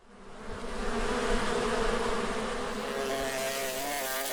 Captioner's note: bees buzzing